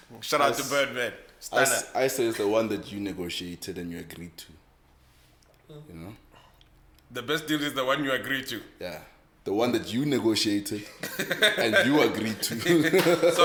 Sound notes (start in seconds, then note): 10.9 laughs